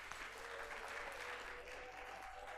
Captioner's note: applause